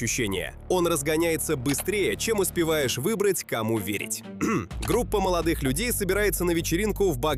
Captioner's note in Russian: откашливается